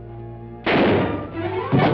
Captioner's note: gunshot